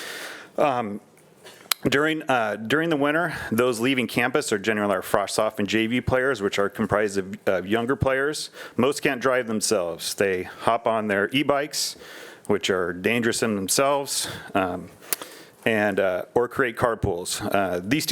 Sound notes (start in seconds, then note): none